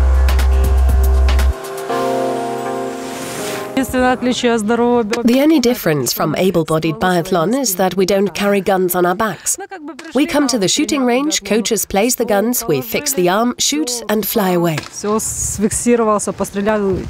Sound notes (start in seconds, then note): 3.9 speaking Ukranian